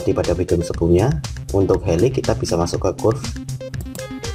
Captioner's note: click